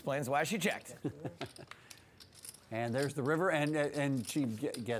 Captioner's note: laughs